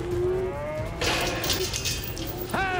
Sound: gate clanking; prompting cattle, horse neighs

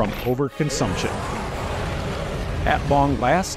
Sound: dragon dying

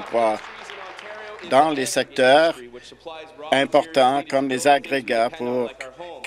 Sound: applause

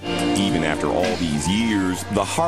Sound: voiceover

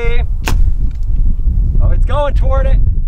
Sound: click

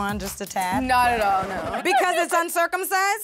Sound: jazzy; record scratches

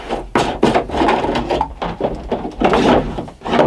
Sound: lid rattling

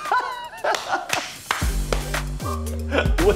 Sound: laughs

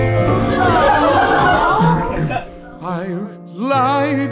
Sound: crowd laughing

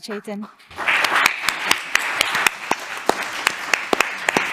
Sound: audience applauding

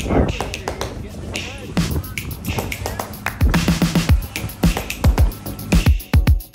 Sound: rhythmic clicking, clapping; steady tempo drumbeat

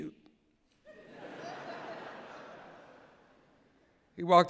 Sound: laughter

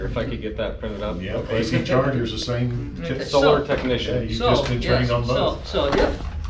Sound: the chattering

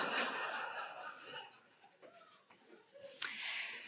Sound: audience laughing

